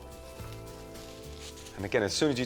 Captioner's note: cling film rustles